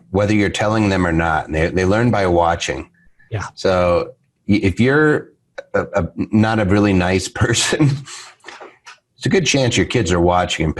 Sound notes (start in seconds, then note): 8.4 giggles